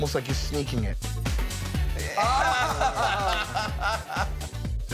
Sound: laughter

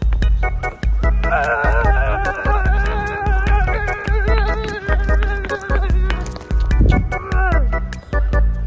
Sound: aaaaagh

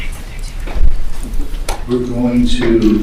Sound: staff member speaking faintly

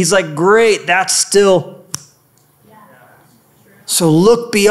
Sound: snapping sound

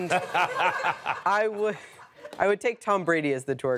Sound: laughing

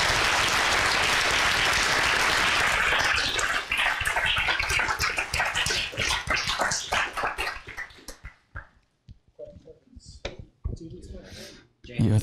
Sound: applause

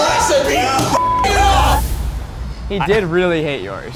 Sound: beep

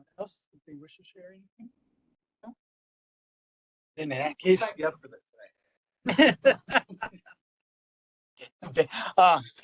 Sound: voice in background, laughing

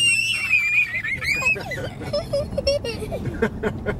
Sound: kids screaming; laughing

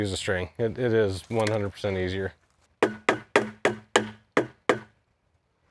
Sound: hammer thuds

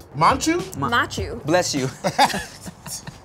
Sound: giggles

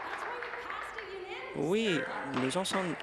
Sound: applause

